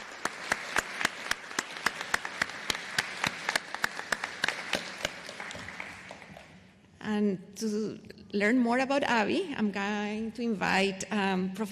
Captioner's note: applause